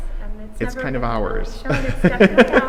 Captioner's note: laughs